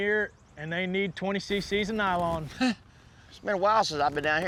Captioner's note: chuckles